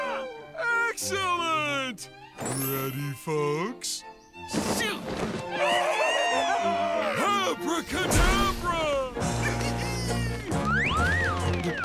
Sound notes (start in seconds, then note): 5.5 cheering; 8.8 laughing